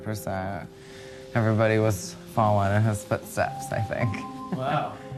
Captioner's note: laughs